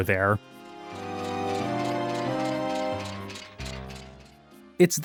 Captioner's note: armor rattling